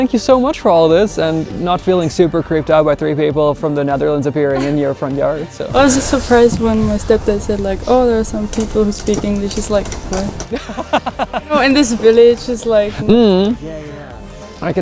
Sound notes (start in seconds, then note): 10.5 laughs